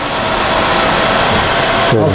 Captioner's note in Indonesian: suara mesin